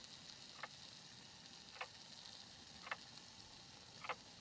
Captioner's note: clock ticking